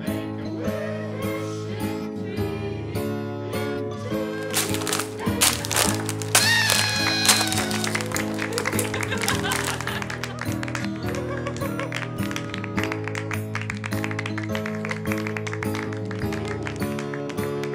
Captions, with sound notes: make a wish in three in two in one (party horn, laughter, applause)